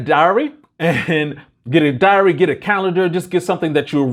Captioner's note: laughs